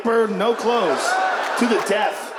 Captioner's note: audience laughs